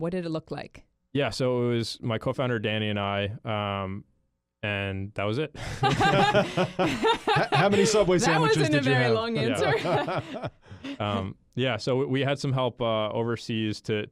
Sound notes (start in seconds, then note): 5.6 all laugh